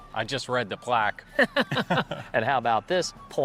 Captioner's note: laughing